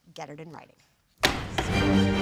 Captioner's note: gavel strike